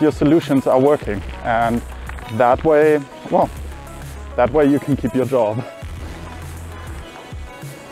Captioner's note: laughs